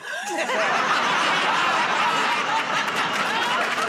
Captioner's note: laughter